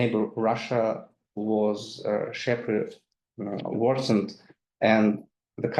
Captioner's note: speaks in foreign language